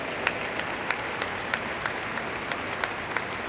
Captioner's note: applause